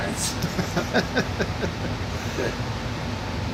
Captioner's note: laughs